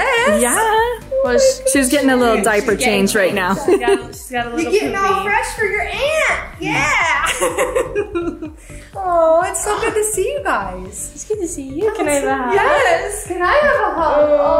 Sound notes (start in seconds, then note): 6.6 laughs